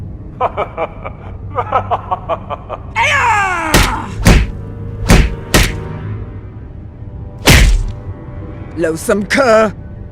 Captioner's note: laughter!